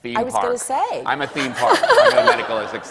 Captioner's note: laughing